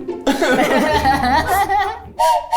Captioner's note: everyone laughs; whistle blows